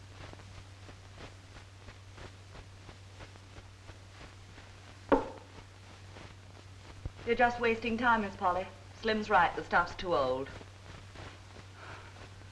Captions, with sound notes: (glass thuds) You're just wasting time, Ms. Polly. Slim's right he stuff's too old.